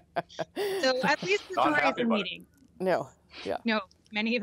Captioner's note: laughter